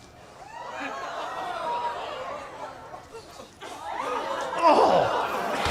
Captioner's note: audience ohs